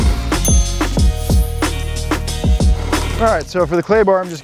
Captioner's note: ding